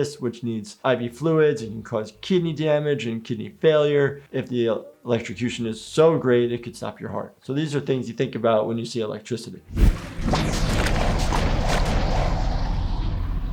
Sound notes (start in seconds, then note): 9.7 liquid bubbles; 9.7 video whooshing